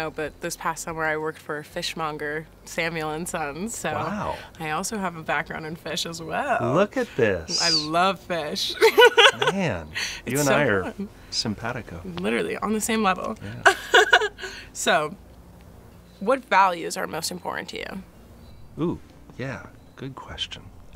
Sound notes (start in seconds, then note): 8.7 laughs; 13.4 laughs